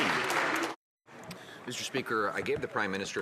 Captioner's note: some Applause